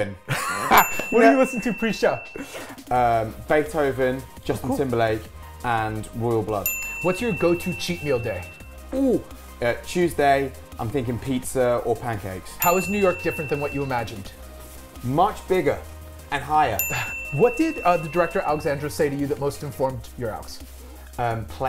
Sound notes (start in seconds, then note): 0.3 laughs; 0.7 bell dings; 6.6 bell dings; 12.6 bell dings; 16.8 bell dings